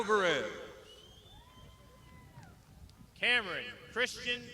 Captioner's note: crowd shouting